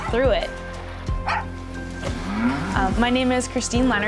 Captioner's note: dog barking